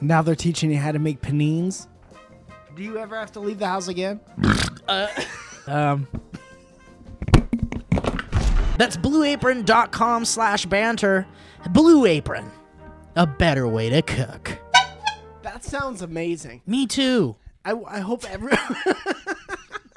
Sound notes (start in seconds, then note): 4.3 burps; 14.6 horn honk; 18.5 dissolves into laughter